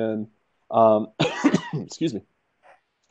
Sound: cough

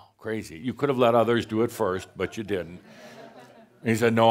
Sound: some chuckles

